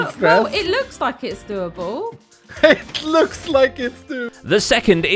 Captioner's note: giggling